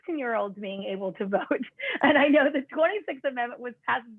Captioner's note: laughter